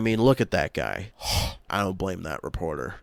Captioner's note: lustful sigh